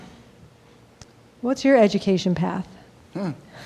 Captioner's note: laughing